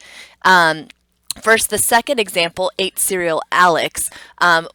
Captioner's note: tongue clicks